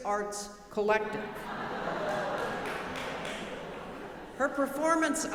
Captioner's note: audience laughing